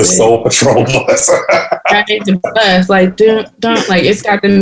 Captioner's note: laughter